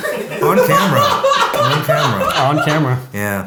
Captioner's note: laughing